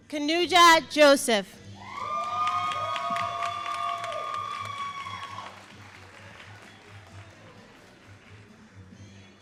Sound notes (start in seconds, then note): 1.7 all applauding and cheering